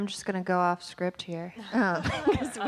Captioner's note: laughing